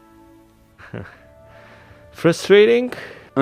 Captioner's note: laughs